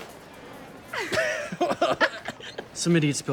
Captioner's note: laughing